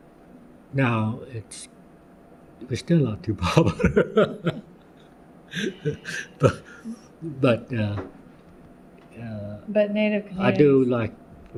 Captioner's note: laughs